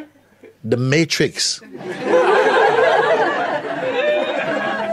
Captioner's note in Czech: smích